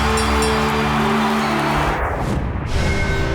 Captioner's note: dinging, cheering; cheering